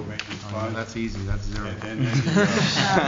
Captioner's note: laughter